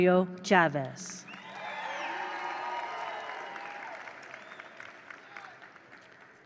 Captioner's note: attendees cheer; attendees applaud